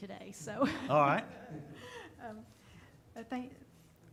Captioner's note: chuckling